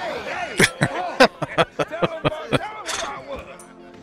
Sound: laughing

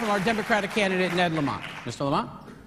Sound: applause

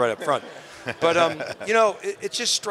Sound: laughing

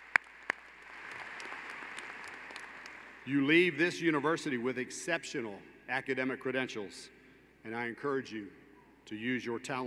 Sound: applause

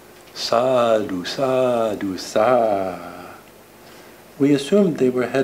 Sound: speaking foreign language

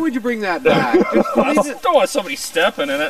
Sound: laughter

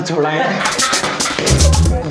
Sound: laighing

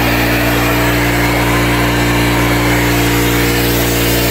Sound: spraying

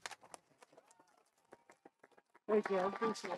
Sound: audience applauding

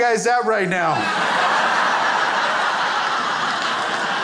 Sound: crowd laughs

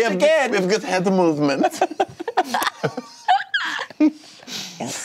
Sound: laughing

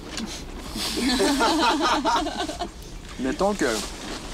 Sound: all laughing

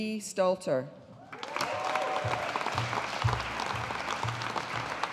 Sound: audience applauding

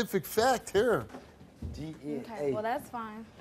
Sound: stammers

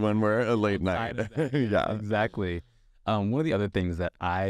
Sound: laughs

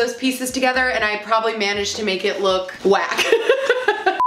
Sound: laughs

